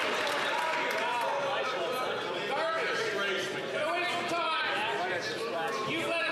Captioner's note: some Applause